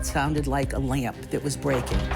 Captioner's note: electronic scratching